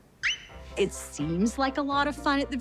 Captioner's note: Audrey squeaking